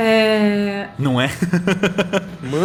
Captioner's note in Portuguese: risos